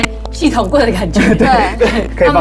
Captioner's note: continuous audio noise